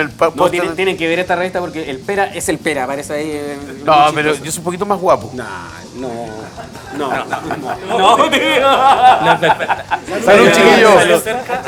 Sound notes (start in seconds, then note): 6.4 laughter